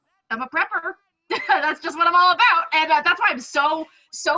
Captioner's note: nervous laughter